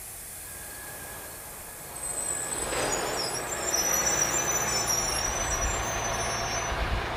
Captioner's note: truck rumbles to a stop